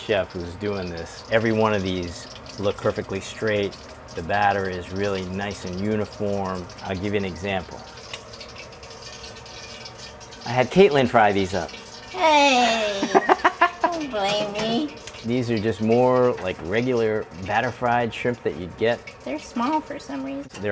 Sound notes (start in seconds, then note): 13.0 cackling